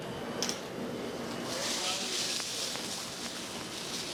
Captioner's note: grill sizzles